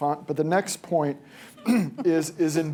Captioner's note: laughter